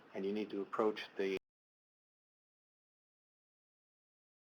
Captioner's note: audio cuts out